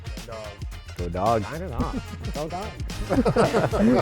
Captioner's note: chatter and laughter